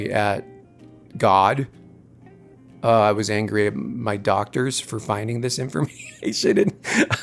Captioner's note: laughter